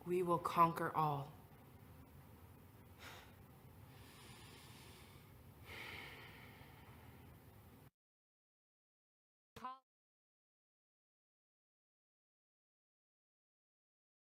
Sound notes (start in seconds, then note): 3.1 sighs deeply